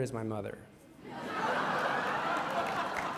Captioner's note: laughter